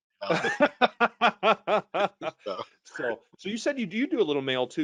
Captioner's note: all laughing